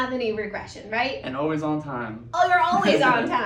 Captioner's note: laughing